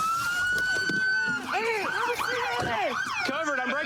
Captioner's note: shouting